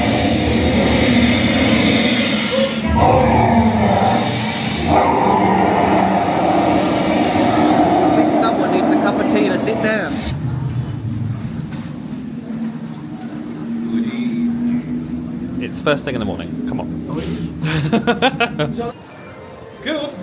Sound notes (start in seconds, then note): 0.9 dragon hisses; 3.7 dragon roars; 11.5 wind whistles eerily; 17.6 laughing